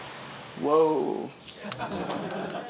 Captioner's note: laughter